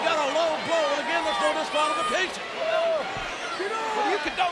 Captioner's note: crowd cheering